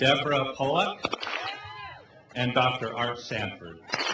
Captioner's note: clap